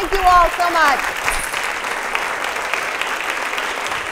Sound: applause

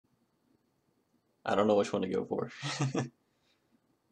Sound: chuckles

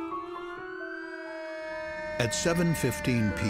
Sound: sound of sirens

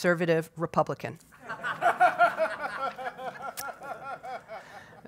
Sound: audience laughs

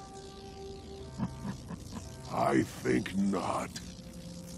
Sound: chuckling

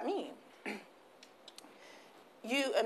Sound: clears throat

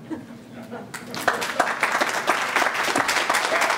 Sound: applause

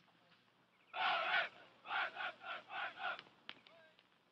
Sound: soldiers chanting

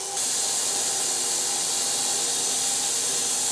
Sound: saw buzzes

